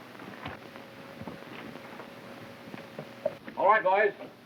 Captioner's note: hooves clopping